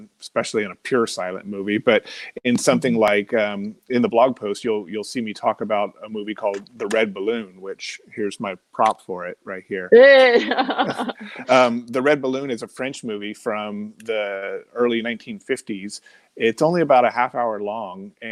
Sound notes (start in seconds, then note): 10.1 laughing